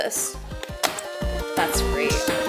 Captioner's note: cardboard snaps